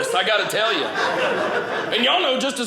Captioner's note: audience laughing